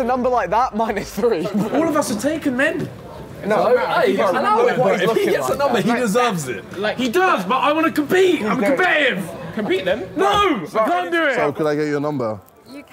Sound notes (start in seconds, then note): 3.8 chattering